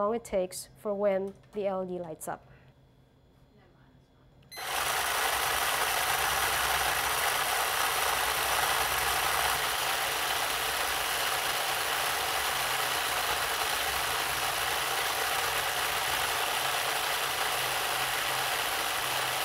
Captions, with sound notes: it takes for when the LED lights up. (electric truck runs) (electric truck runs) (electric truck runs)